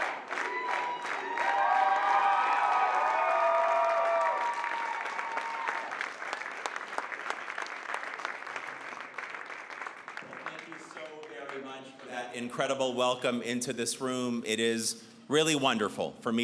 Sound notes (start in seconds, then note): 1.6 chanting; 3.7 cheering